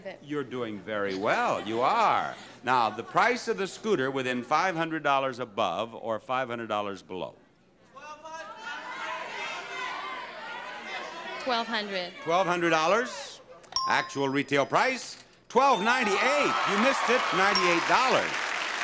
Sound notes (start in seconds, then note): 8.4 audience babbling; 17.8 audience cheering